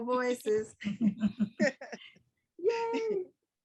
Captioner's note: group laughs